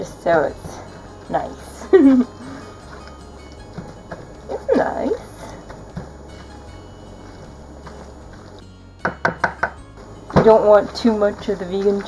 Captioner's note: Borat voice